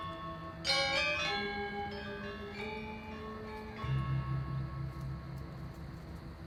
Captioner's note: bells ringing